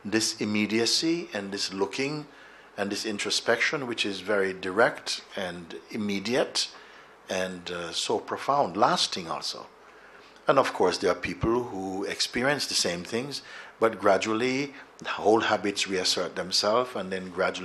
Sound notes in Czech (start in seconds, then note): none